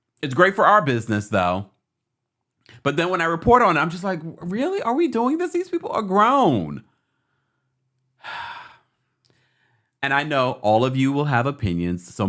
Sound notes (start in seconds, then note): 8.2 sighs